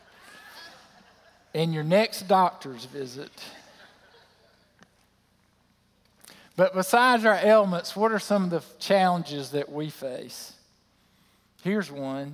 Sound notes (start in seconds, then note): 0.1 laughter; 3.5 laughter